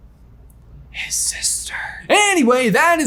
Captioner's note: whispering